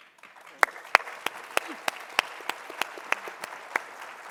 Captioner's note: audience applauding